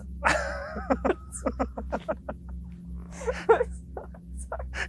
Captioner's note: laugh